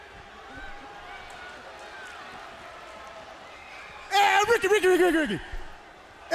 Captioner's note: crowd cheering